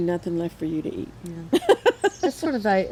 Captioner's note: laughs